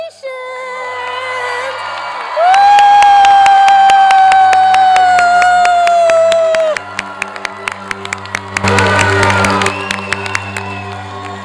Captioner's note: applause, cheering, and upbeat electronic music